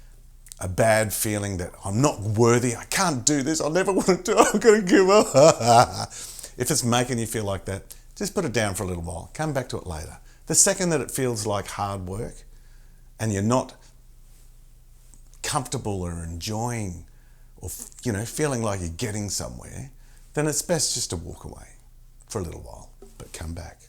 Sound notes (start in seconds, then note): 5.7 sob sob sob